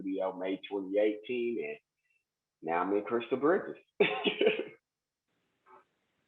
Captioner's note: laughs